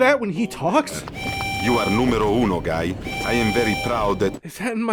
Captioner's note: siren